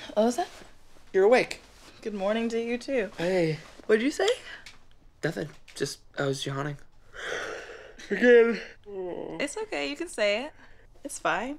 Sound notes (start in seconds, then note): 7.1 yawning